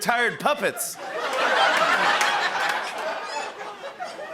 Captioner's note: laughter and applause